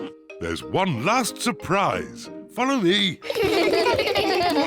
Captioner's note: kids laugh